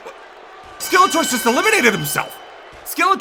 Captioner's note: bell rings